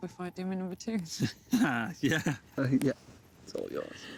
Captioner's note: laughing